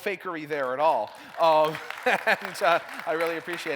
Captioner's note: applause